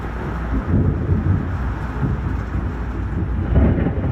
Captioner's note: thunder rumbles